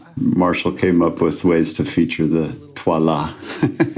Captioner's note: in French accent; laughs